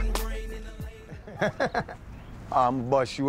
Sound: chuckling lightly

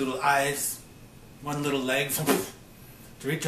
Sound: imitates clattering

